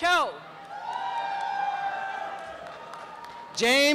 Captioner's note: applause and cheering